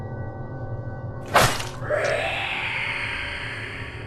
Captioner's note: sword slash